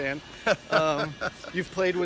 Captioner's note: chuckles